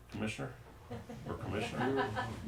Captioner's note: woman's laughter